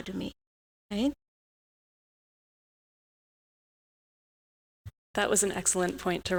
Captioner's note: audio out